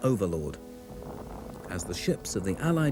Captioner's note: shell booms